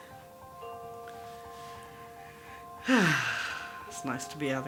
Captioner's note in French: profond soupir